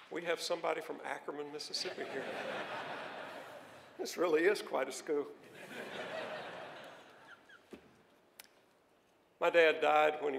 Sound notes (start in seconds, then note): 5.4 laughter